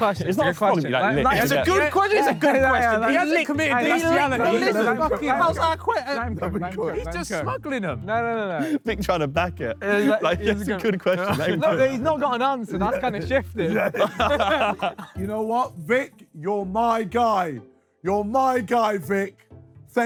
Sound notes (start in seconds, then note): 14.4 Sidemen laugh